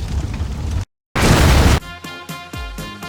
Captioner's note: explode